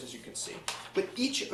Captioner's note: pages flipping